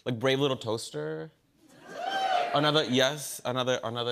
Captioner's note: crowd cheers